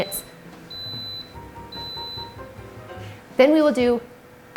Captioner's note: beeping sounds